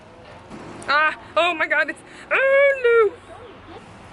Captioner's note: incoherent noises of distress